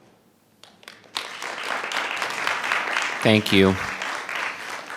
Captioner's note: audience applauding